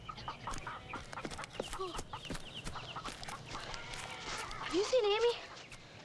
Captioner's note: chickens clucking; Tommy panting